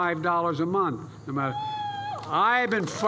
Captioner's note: applause